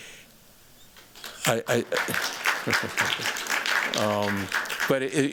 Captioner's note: applause